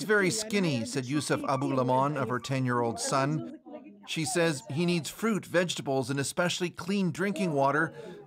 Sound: speaking alternate language

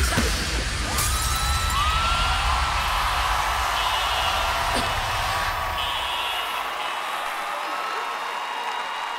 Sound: applause

